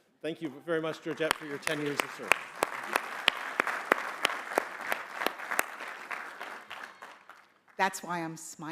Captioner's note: applause